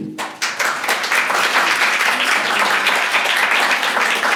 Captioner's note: applause